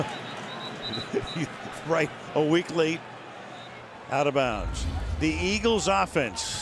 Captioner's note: chuckles